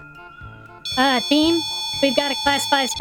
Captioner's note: dramatic, as the Ghost-o-Matic 5000 starts beeping